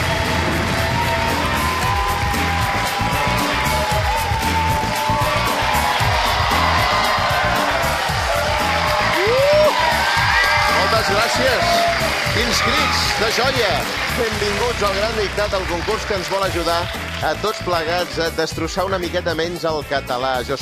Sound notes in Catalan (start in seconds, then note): 0.6 públic: aplaudiments i crits